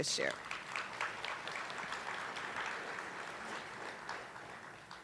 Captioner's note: attendees applauding